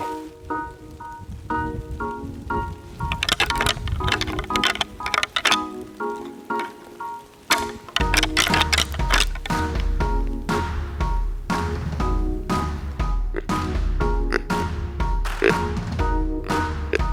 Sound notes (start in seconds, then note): 0.2 energetic music; 3.3 antlers rattling; 14.5 deer calling